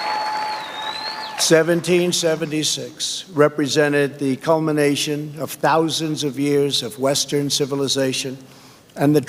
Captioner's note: applause